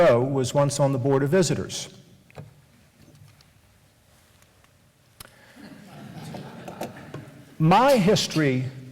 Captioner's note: laughter